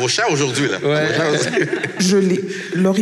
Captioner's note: laughs